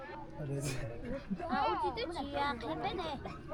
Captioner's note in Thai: พูดภาษาต่างประเทศ